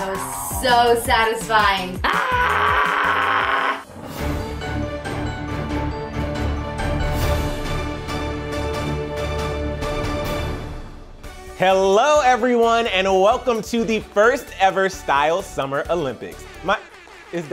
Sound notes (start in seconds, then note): 2.0 yelling; 4.0 upbeat music